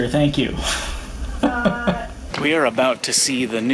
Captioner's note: laughs